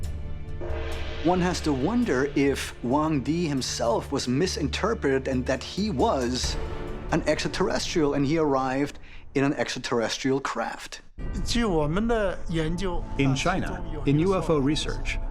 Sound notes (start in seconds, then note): 10.8 speaking Chinese